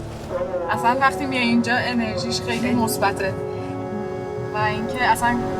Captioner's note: second woman speaks in other language: translation on screen